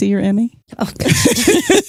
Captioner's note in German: Lachend